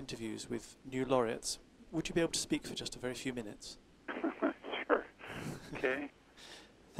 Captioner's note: laughs